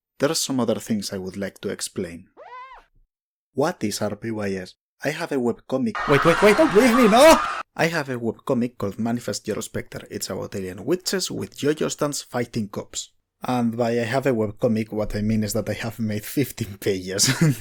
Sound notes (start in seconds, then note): 5.9 crowd screaming; 17.3 chuckles